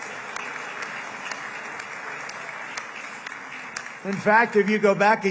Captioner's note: applause